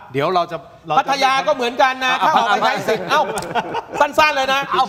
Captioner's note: laughter